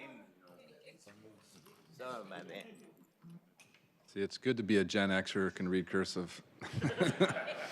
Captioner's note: laughter